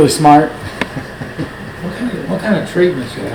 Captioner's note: Richard laughing